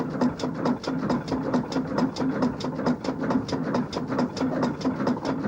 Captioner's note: engine running